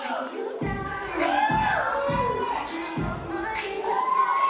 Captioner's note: applause